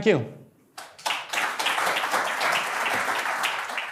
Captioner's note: applause